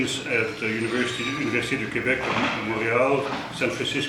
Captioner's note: speaking foreign language